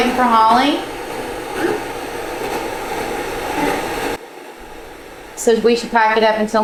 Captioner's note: static sound